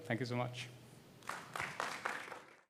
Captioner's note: applause